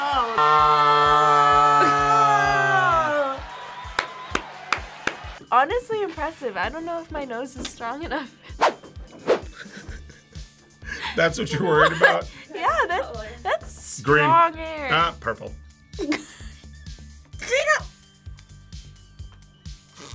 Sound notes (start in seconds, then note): 3.8 claps; 9.5 laughs; 11.7 laughs